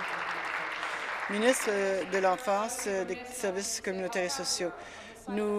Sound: applause

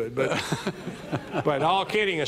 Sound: audience laughing

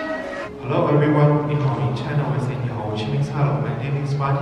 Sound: introduces in Chinese

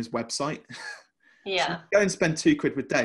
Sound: laughing

